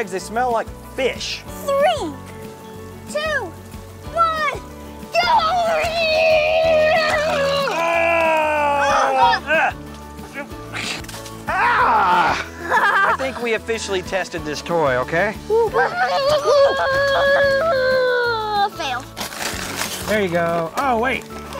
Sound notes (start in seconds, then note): 6.7 yelling; 9.0 grunting; 10.4 yelling; 12.0 laughing; 15.5 yelling